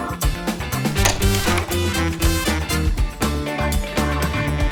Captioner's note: slide clicks